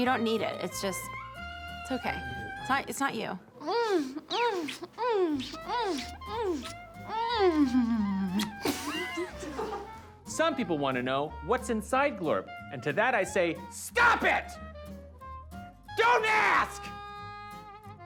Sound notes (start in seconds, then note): 3.6 smooches, moans; 7.1 both laughs